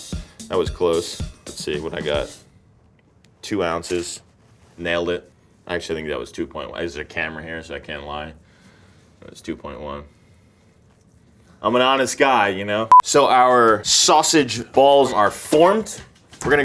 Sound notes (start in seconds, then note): 3.8 parchment rustles; 12.9 note beeps